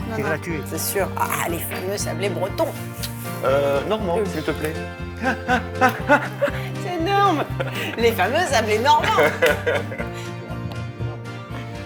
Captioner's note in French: rires